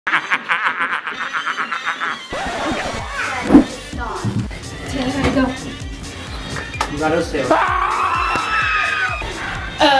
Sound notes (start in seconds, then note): 0.1 evil laugh; 2.2 record scratches; 7.4 screams